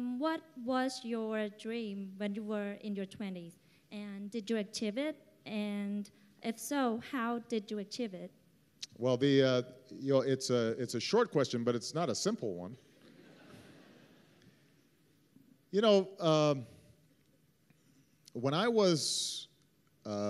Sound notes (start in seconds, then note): 15.6 laughter